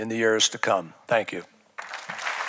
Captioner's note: applause